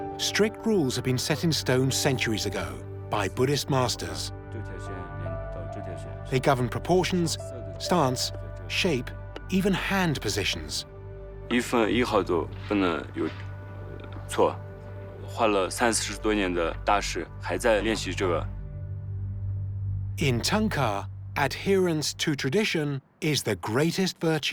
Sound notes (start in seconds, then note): 5.7 speaking Tibetan